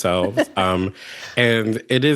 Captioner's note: laughter